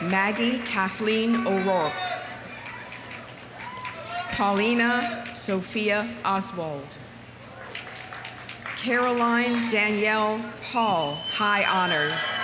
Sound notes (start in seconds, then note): 3.2 audience applauding; 3.2 audience cheering; 7.6 audience applauding; 11.4 audience cheering; 12.2 audience applauding